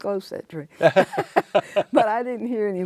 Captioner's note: both laugh